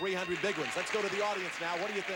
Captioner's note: audience applauding